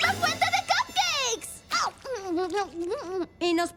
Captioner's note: slurp